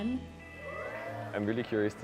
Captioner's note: cheering